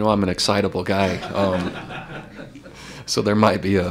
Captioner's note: laughter